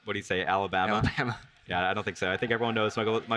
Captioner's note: chuckles